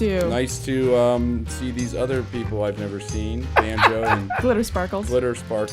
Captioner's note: laughter